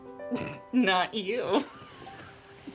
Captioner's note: laughs